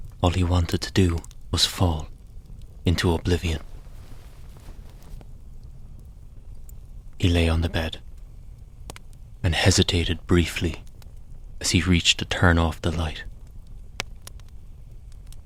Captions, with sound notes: all he wanted to do was fall into oblivion [Sound of bed sheets rustling] He lay on the bed and hesitated briefly as he reached to turn off the light,